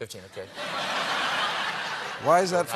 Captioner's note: laughter